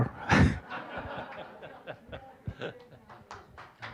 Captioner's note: all laughing; applause